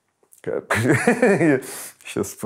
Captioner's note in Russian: смеётся